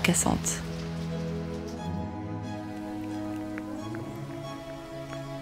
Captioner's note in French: bruit du lapin qui grignote; la pluie s'est arrêtée, chants des oiseaux